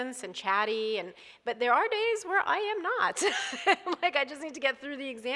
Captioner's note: laughs